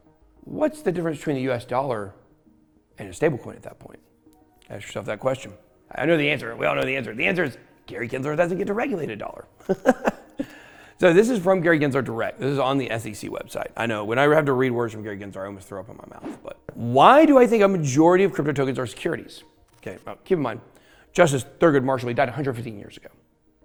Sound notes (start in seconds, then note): 9.6 laughs